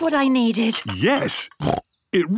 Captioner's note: snorts